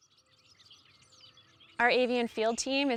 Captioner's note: birds singing